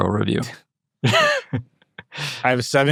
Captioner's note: chuckling